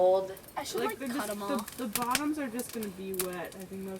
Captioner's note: girls talking